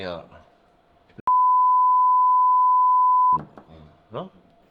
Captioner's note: beepy diddy beepy